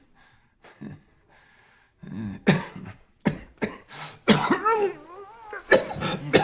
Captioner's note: coughs violently